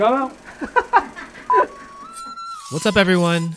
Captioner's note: laughs